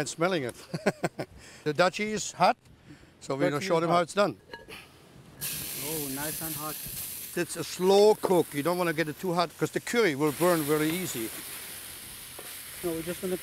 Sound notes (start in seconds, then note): 1.0 laughs; 5.3 sizzling